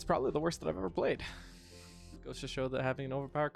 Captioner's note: sighs of truth